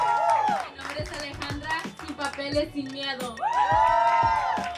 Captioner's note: audience applauding; speaking in foreign language; audience applauding